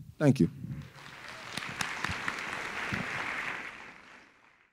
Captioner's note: crowd clapping